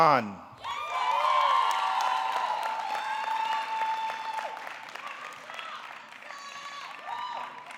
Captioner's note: audience cheering; audience clapping